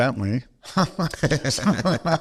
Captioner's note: laughter